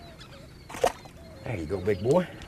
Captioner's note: splash